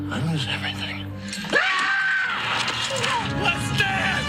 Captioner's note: A psychotic shriek